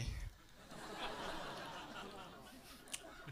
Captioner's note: laughs